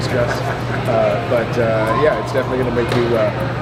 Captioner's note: laughs